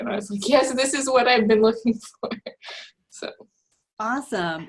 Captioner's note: laughs